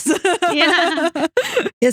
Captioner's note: both Laughing